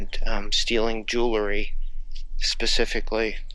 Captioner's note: birds chirping